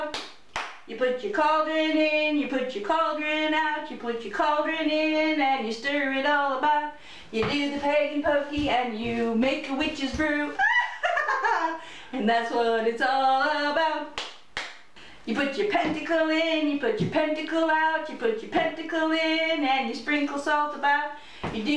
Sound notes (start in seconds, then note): 10.6 witch cackle